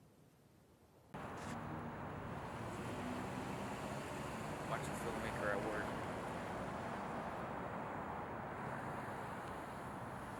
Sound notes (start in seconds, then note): 2.4 car revving